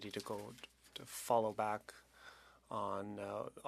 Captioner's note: speaking French